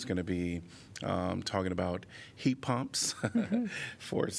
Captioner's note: laughter